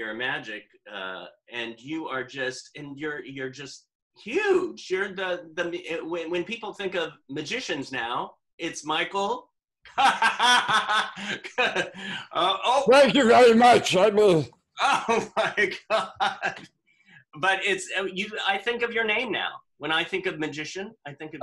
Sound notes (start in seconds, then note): 9.9 laughter